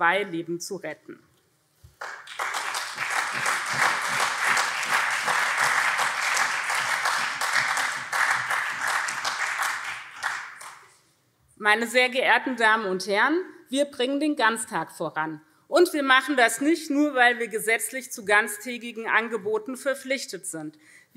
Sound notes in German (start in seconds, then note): 2.0 Beifall SPD und CDU